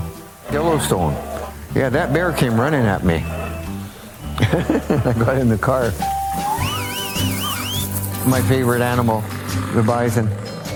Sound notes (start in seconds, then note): 1.3 bear growling; 6.1 whistling cowboy, horse gallops